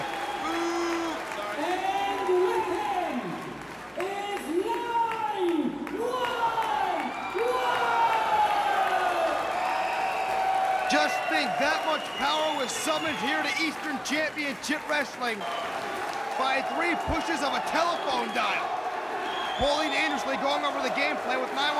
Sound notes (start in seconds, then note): 5.6 crowd booing; 12.8 crowd cheering